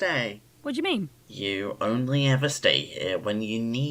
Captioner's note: none